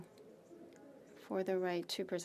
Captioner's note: speaking French